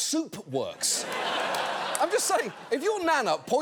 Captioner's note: audience laughing